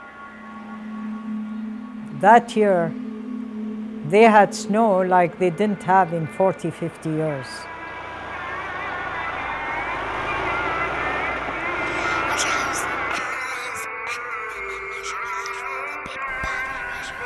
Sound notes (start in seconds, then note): 12.9 child whispering